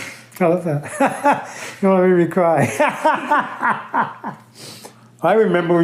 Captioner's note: laughter